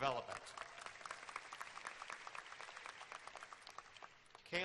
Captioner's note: applause